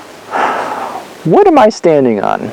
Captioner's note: exhales